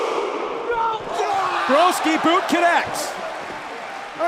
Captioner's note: fans chanting